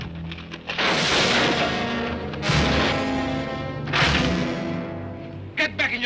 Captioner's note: crashing sounds